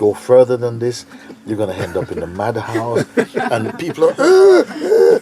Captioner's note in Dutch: gelach